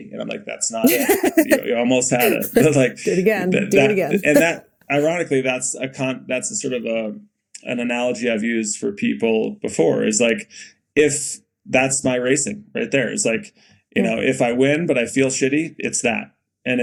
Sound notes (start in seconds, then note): 0.8 Mikaela laughing